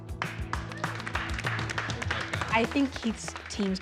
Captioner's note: applause